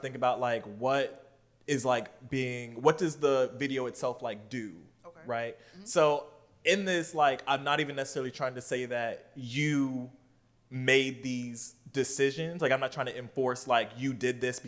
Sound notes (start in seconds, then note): none